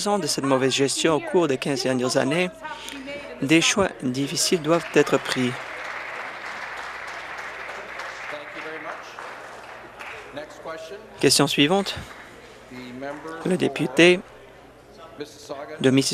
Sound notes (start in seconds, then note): 7.1 applause